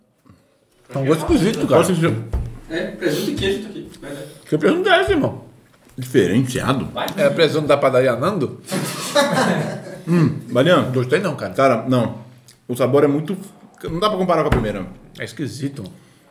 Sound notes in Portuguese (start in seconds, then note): 8.7 risos